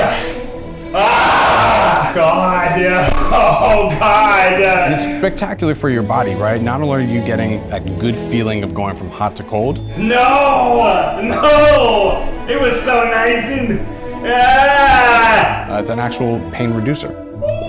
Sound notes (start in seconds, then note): 0.9 screams; 14.4 cries